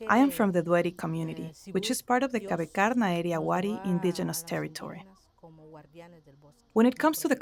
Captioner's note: foreign language